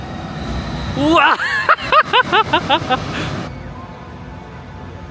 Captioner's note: giggling